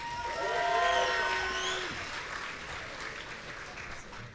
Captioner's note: audience cheering